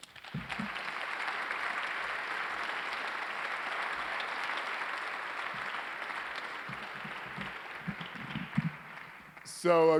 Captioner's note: applause